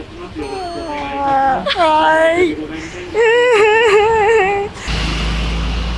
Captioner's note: laughs